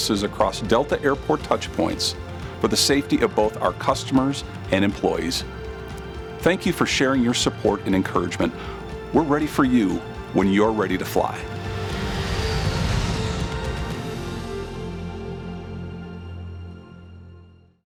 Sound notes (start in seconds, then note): 11.4 engine roars